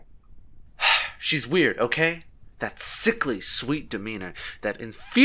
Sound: sigh

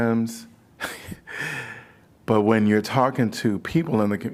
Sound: laughter

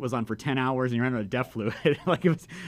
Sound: laughing

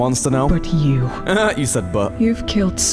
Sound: laughter

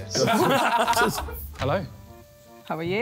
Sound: laughing

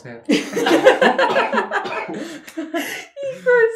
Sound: cracking up

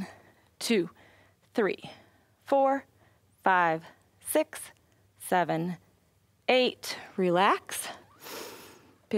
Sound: inhales

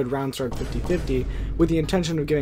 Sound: x2 Vine boom sound effect

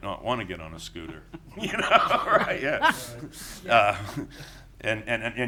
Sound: laughing

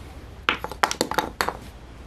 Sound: spools clatter

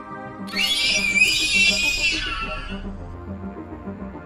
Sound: shrieking noise

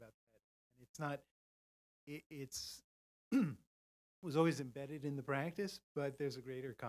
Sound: cough

